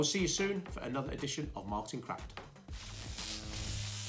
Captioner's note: electric Buzz